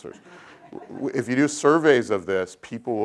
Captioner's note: laugh